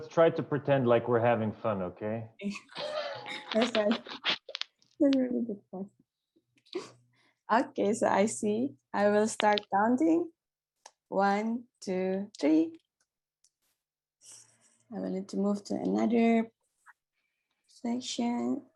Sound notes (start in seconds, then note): 2.5 laughs